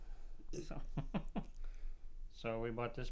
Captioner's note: laughs